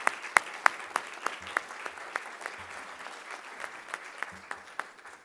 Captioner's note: applause